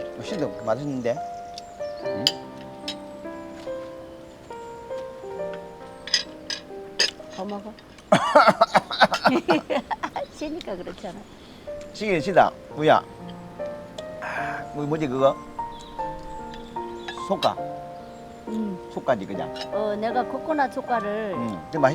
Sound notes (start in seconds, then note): 8.0 coughing; 8.1 both laughing